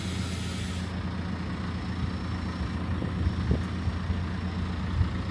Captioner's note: vehicle rumbling